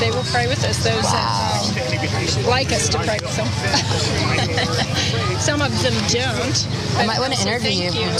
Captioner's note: laugh